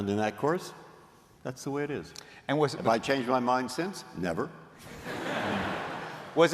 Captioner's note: laughter